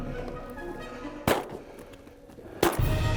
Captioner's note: gun shot